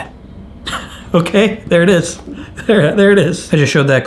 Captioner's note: laughs